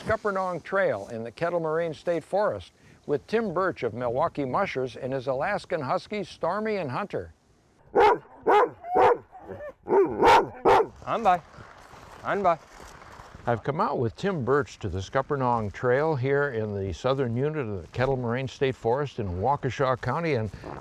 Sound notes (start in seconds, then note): 7.9 dogs barking